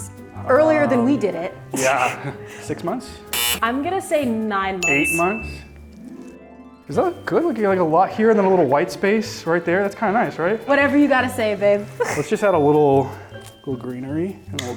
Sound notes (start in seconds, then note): 1.7 laughs; 3.3 buzzer tone; 4.8 bell dings; 11.9 laughs